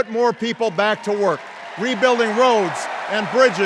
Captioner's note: cheers and applause